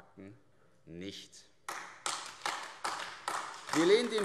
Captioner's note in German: Beifall AfD